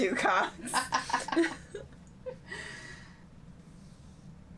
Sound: laughing

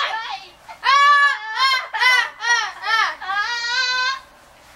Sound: Philistines continue to laugh

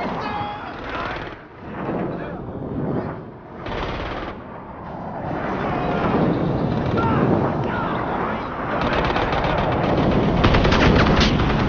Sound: Angry North Koreans shooting

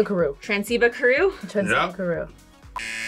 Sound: speaks Simlish; buzzer

